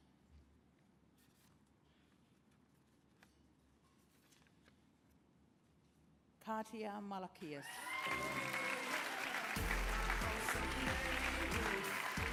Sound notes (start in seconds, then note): 7.6 applause